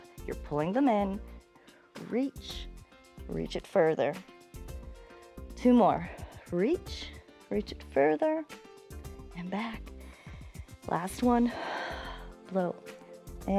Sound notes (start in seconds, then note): 10.0 inhales; 11.5 exhales